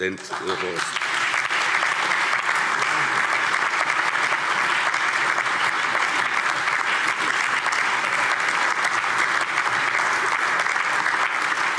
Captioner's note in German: Anhaltender allgemeiner Beifall